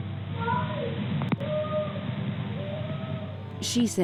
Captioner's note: crying